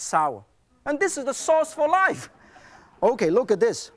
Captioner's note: crowd laughs